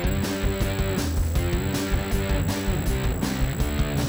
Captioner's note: rock guitar music; text beeping